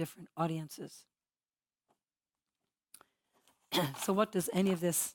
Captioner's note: cough